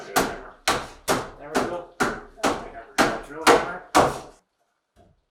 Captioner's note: banging sound